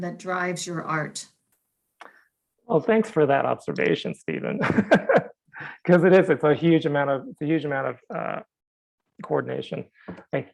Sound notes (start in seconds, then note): 4.6 laughing